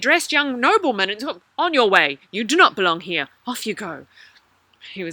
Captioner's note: soldier voice